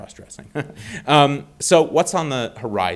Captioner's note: chuckling